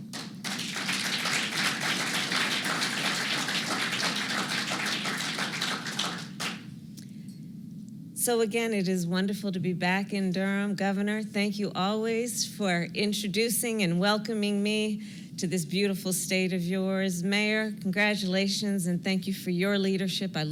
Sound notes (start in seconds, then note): 0.0 applause